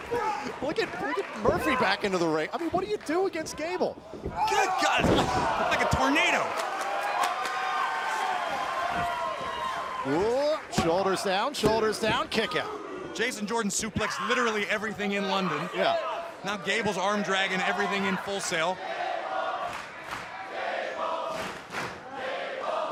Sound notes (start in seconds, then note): 13.5 crowd cheering